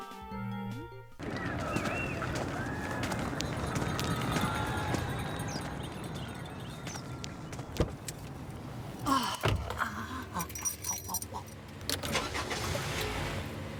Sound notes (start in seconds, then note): 1.2 chattering, Cheering In Distance; 9.0 sighs, Groans; 11.9 engine Starts